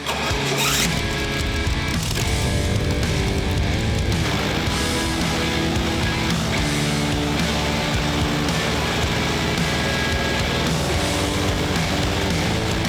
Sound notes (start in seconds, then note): 0.3 rock music; 1.9 airboat motor running; 4.9 fan blowing